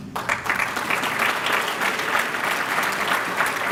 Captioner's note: applause